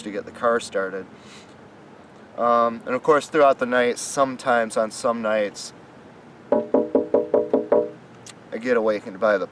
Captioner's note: knock on window